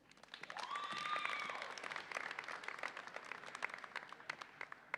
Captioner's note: audience applauds and cheers